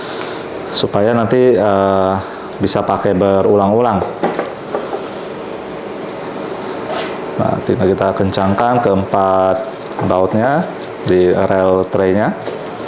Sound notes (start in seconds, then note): 4.2 installing tray sound